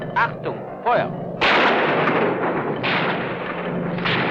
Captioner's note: guns firing